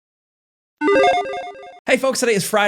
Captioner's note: logo beeping